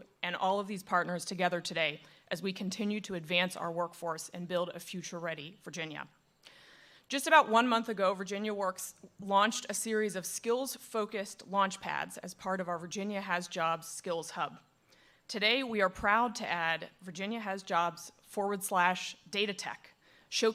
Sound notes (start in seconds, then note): none